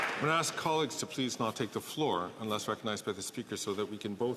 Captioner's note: some Applause